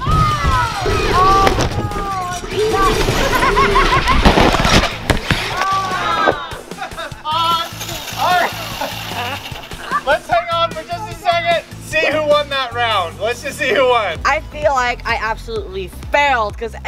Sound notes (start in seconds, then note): 0.1 groans; 3.1 laughs; 5.4 groans; 8.2 laughs